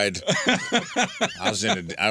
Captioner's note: laughing